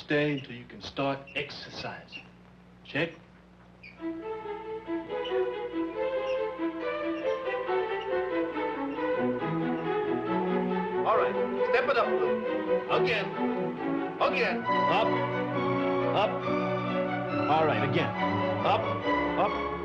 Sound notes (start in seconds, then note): 3.9 dramatic classical music; 3.9 pulleys squeaking